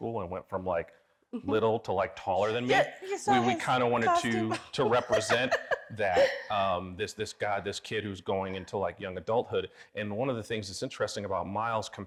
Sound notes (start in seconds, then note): 4.0 laughing